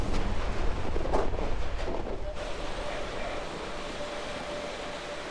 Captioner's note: wind blowing